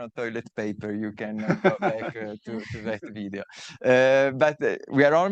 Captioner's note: laughing